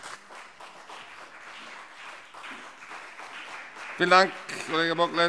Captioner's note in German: Beifall BÜNDNIS 90/DIE GRÜNEN und CDU